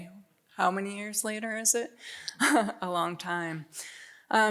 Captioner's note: chuckles